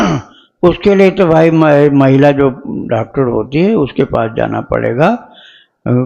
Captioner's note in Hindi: गला साफ़ करने की आवाज़